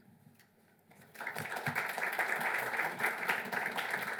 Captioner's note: applause